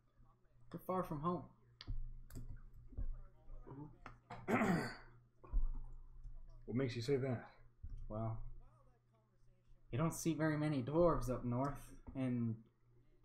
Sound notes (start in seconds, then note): 4.3 ahem